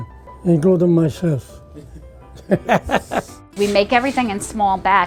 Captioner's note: chuckles